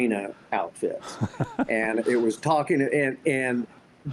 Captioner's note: laughs